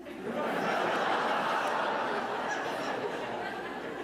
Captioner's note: audience laughing